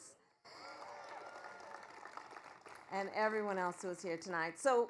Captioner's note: applause